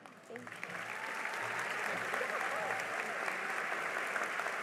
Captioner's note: cheering and applause